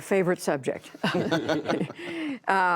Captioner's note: laughter